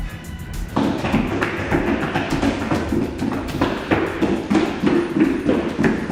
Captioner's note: footsteps